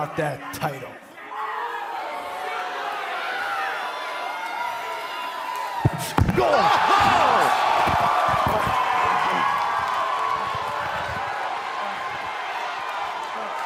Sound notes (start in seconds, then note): 1.2 cheers and boos